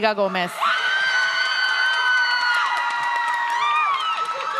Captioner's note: audience cheers